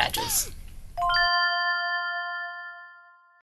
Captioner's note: bell ringing